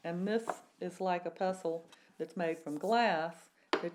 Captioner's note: none